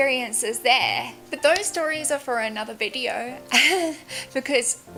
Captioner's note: laughs